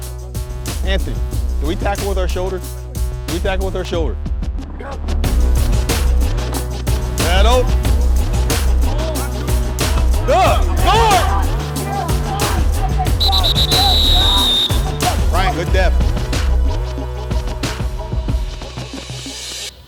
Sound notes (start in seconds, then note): 13.1 whistle blowing; 17.3 hip hop music